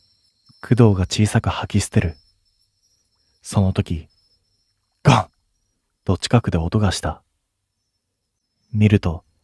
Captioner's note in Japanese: 咳払い